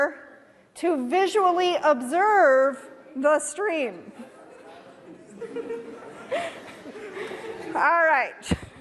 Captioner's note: audience reaction